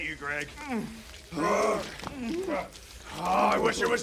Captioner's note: moaning and whining